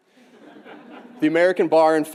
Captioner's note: audience laughing